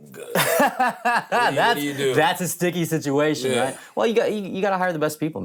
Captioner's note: laughs